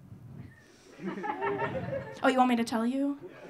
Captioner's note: audience laughing